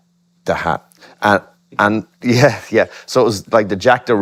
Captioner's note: both laugh